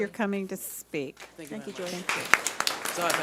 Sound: audience applauding

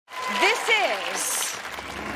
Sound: cheering

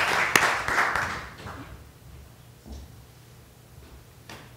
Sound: applause

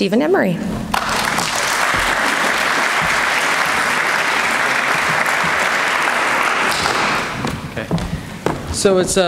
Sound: applause

